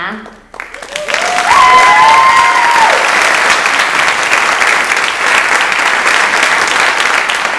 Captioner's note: audience applauds